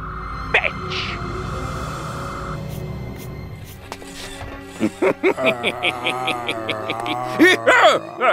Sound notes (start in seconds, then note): 4.7 laughing